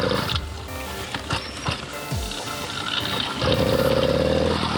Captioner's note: motor rumbles; motor sputters off; motor revving